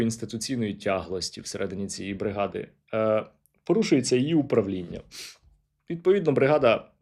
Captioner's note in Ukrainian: сопіння